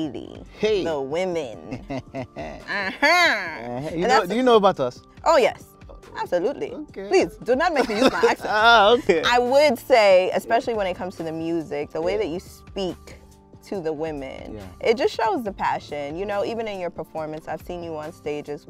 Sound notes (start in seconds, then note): 1.6 chuckles